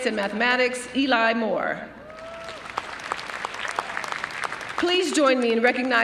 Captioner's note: cheering and applause